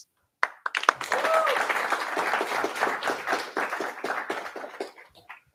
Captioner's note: applause